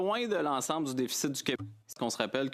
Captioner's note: speaking French